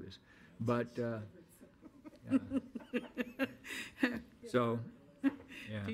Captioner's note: faint speaking and laughing